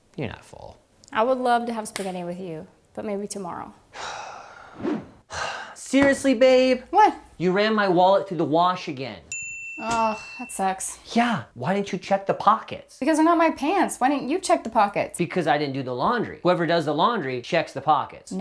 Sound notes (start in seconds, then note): 3.9 sighs